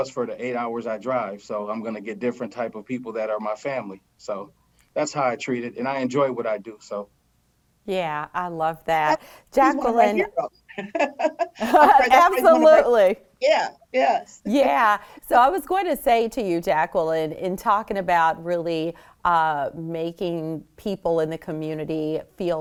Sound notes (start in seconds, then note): 9.7 laughs